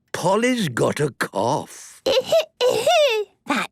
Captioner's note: coughing